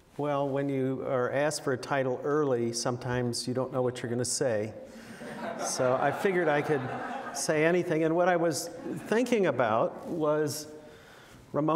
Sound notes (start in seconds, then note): 5.1 laughter